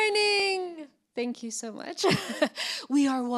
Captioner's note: laughs